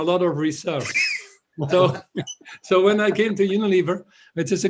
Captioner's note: laughter